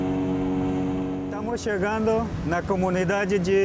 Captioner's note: speaking foreign language